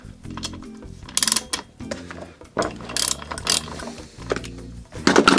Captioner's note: socket wrench turns